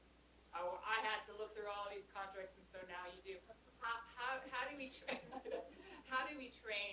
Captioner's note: laughter